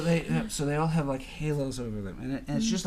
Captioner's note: voiceover